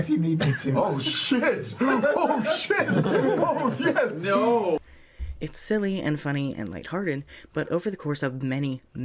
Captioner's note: laughter